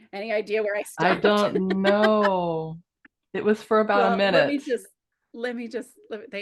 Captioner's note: laughs